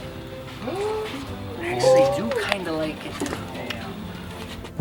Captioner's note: staff gasps